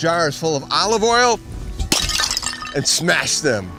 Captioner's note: jar shatters